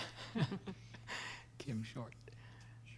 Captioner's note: laughter